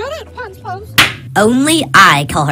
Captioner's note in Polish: uderzenie